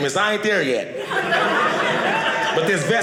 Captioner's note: audience laughing